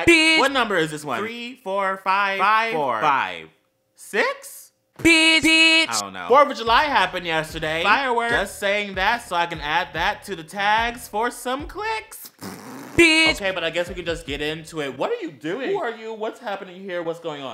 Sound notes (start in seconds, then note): 12.2 pffft